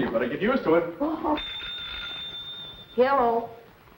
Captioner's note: phone rings